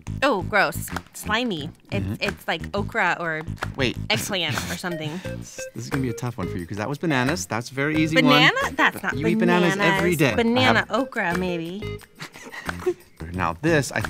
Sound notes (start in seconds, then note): 12.2 laughs